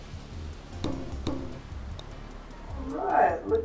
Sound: ball bounces

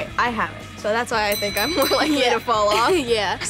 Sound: bell Ringing

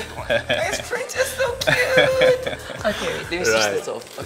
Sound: laughing

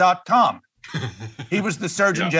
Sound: laugh

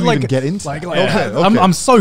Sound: group chattering

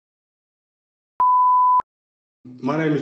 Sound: beep

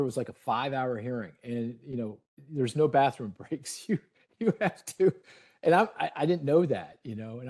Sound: laughing

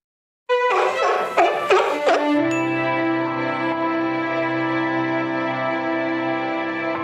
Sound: the Seal is Barking!

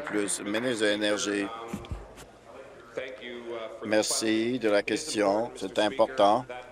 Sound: applause

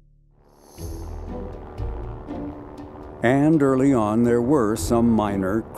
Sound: aircraft engine roaring

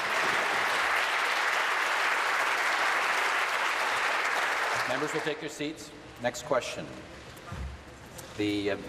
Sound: applause

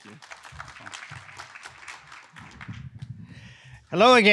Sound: audience clapping

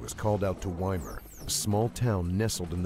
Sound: radar beeps

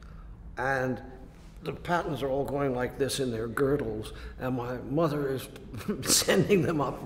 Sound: laughs

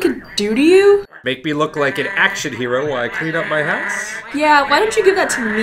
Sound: penguin sounds

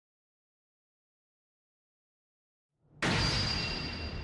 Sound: creepy sound

